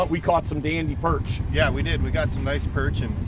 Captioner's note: voiceover